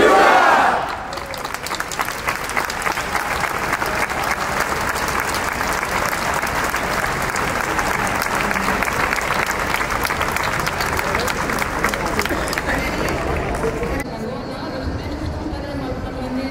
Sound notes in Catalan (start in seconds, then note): 0.6 Aplaudiment